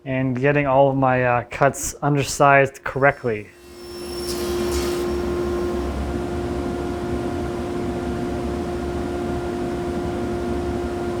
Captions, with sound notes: and getting all of my cuts undersized correctly. (tool whirring) (tool whirring)